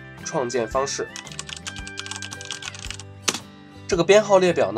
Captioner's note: typing Sound